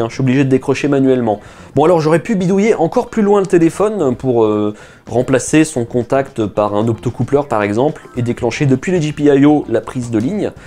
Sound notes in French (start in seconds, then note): none